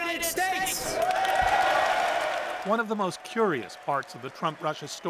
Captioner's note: cheers and Applause